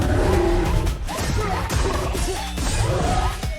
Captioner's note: grunting